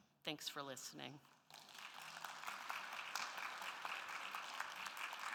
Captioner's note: audience applauding